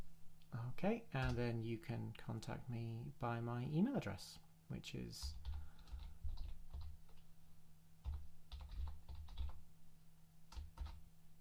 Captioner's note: typing